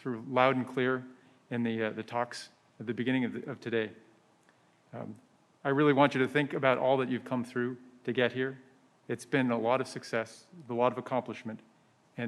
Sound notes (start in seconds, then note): none